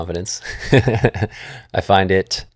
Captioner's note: laughs